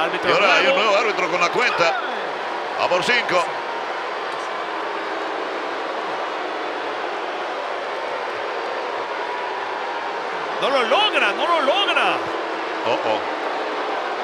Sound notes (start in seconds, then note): 4.1 applause